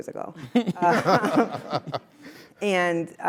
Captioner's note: laugh